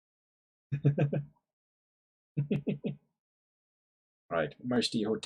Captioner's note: chuckles